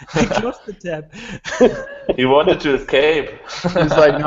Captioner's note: laughing